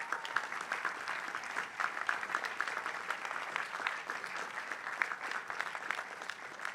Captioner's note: applause